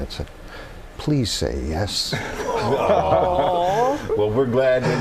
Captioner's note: laughter